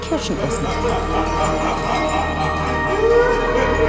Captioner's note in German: dämonisches Lachen